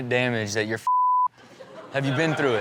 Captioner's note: beep; audience laughs